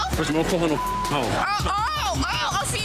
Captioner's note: beep